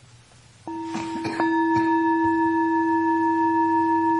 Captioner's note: bell chiming